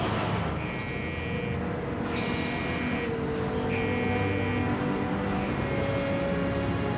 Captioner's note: door alarm sounding